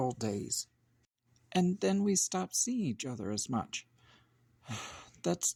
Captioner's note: sigh